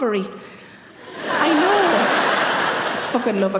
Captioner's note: audience laughing